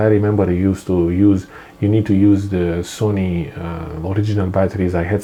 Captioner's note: none